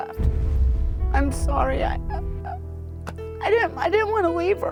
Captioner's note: stammers